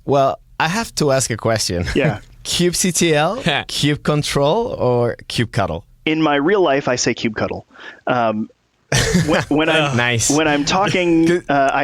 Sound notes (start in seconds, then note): 8.9 laughter